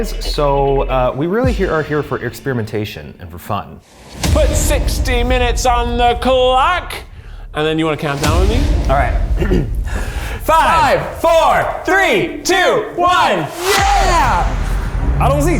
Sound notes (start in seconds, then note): 9.4 clears throat